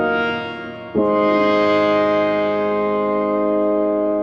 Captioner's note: phone chimes